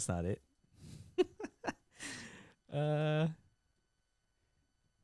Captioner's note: laughing